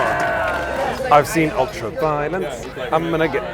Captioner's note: Wastelanders clapping